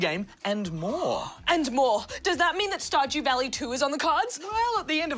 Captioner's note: gasps